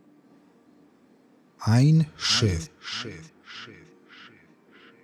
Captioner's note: german